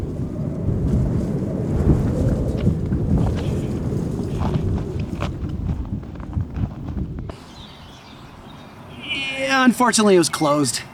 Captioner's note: wind